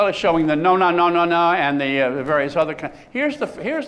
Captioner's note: non-english